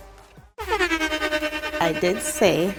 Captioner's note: klaxon sounding